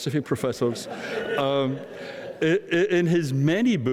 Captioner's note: audience laughing